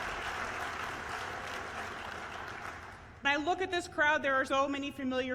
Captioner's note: applause